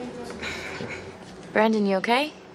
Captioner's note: laughs awkwardly